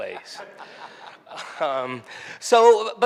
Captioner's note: audience member laughs